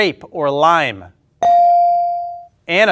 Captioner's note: ding chimes